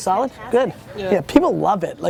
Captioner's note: voiceover